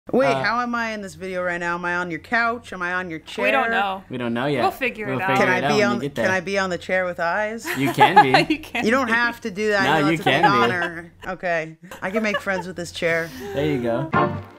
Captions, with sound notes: - Wait, how am I in this video right now? Am I on your couch, am I on your chair? - We don't know. - We don't know yet. - We'll figure it out. - We'll figure it out when we get there. - Can I be, can I be on the chair with eyes? - You can be. - (laughing) You can be. - You don't have to do that-- - No, you can be. - Okay, I can make friends with this chair. - There you go.